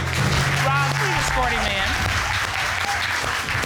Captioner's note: applause